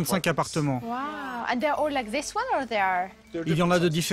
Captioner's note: in English